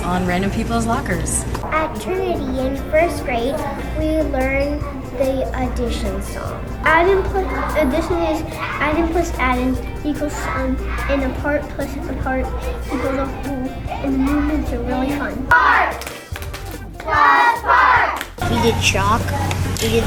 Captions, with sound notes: on random people's lockers. - At Trinity in first grade, we learned the addition song. - Adding, addition is adding plus adding equals in a part plus a part because of who, and the movements are really fun. (clapping) (chanting) - We did chalk.